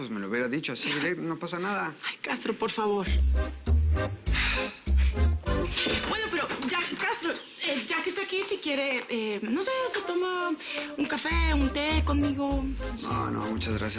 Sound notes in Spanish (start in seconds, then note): 4.2 El exhala